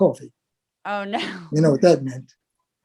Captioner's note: laugh